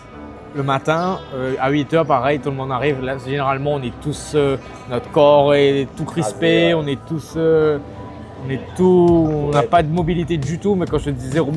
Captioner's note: laughs